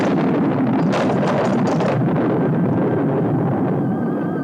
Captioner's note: thunder rumbles; pole clatters